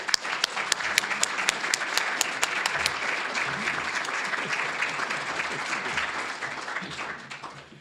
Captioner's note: applause